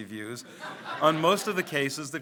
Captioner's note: audience laughs